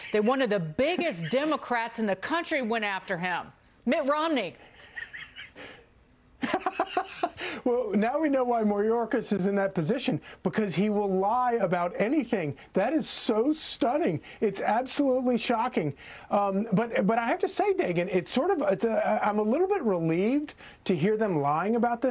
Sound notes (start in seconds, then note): 8.2 laughter